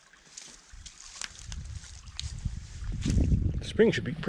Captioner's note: water burbling